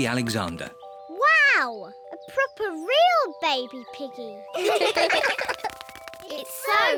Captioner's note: all laugh